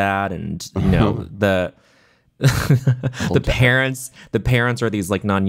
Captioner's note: chuckling